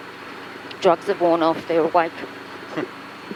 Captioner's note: chuckles